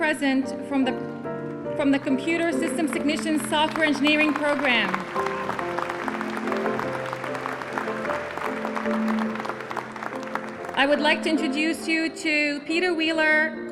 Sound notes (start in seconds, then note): 8.0 applause